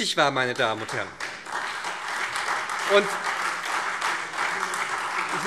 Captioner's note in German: Lebhafter Beifall SPD und Freie Demokraten